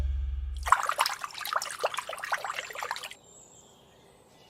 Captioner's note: pouring sound